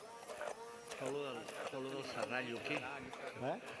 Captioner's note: non-english speech